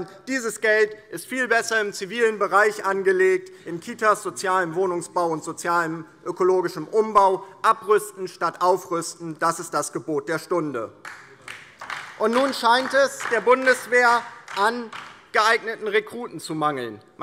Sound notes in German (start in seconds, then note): 11.0 Beifall DIE LINKE